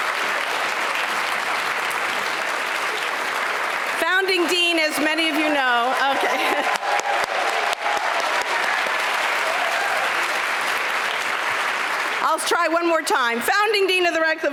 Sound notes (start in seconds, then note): 0.0 applause; 6.4 applause